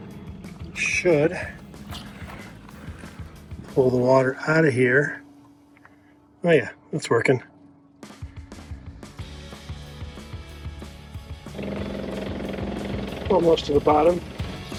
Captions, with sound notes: should pull the water outta here. Oh yeah, that's working. (upbeat music) (pump rumbling) Almost to the bottom.